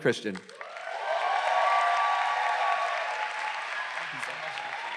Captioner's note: crowd applauds